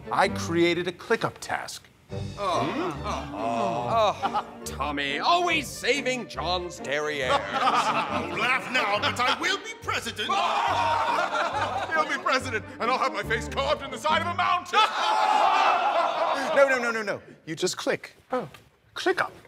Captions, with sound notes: I created a ClickUp task. (crowd sighing in relief) - Tommy, always saving John's derriere. (group laughing) - Laugh now, but I will be president. (group laughing) - He'll be president, and I'll have my face carved in the side of a mountain. (group laughing) No, no, no, no, no, you just click. - Oh. - ClickUp.